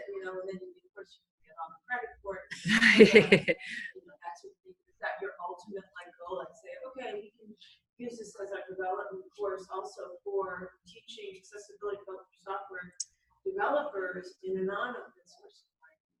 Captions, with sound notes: you know, and of course you get all the credit for it. [LAUGHING] Is that your ultimate life goal, like say, OK, we can use this as a development course also for teaching accessibility for software developers in a non-open source way?